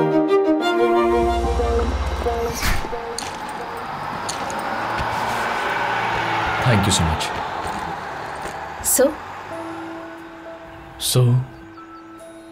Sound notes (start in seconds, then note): 2.0 door closes; 3.6 bus zooming